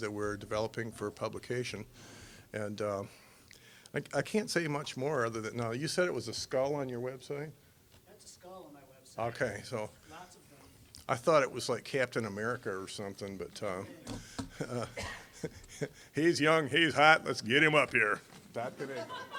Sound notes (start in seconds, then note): 14.2 laughing; 18.8 audience laughing